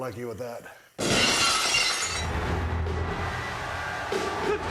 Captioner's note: glass shatters